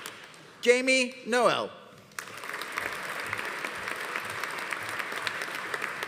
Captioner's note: audience applauding